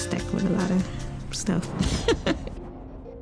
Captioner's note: giggles